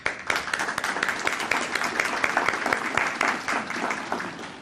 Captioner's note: audience applauding